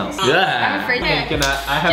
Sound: he gags

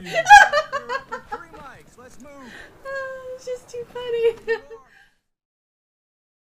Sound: laughs and sighs

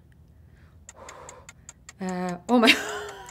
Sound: clock ticking gently

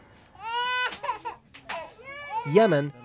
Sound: children crying

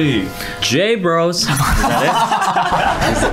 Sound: laughing

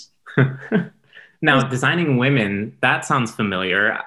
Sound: laughing

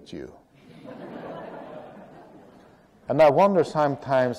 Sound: laughter

